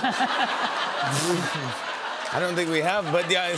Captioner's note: laughter